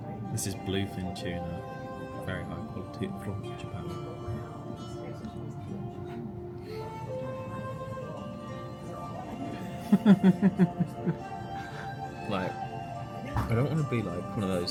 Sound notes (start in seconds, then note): 6.2 oriental music plays; 9.8 laughs